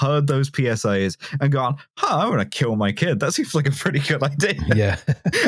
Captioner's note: laughs